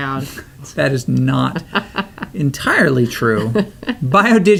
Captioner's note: laughs